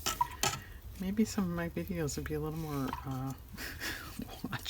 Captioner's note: laughs